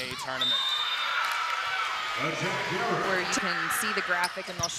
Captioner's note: cheering